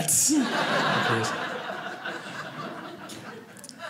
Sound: audience laughing

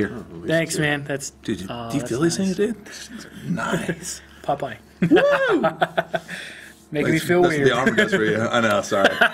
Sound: laughs

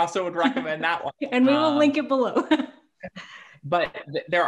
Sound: laughs

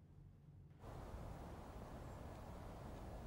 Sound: distant air and traffic

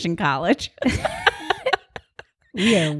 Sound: both laugh

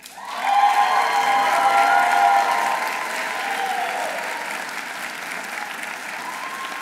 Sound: audience applauding; audience cheering

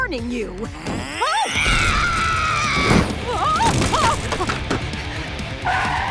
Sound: screaming; screaming

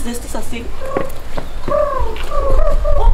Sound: pigeon noises

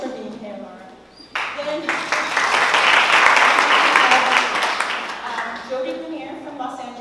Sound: applause

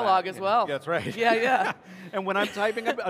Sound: laughs

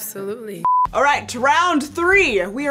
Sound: screen beeping

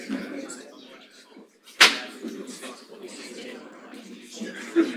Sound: audience chattering

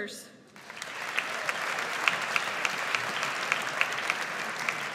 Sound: audience applauds

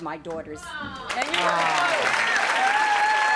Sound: applauding

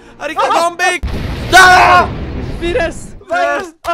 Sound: booom

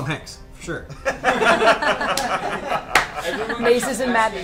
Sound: all laugh

